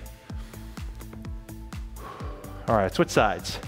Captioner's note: upbeat music; breathes heavily